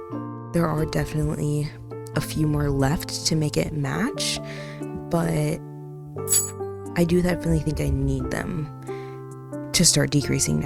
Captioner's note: hook falls loudly